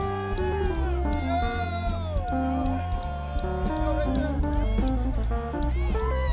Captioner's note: students cheering and laughing